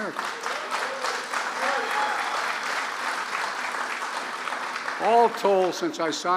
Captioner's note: applause